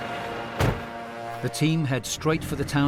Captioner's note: intense music; door thuds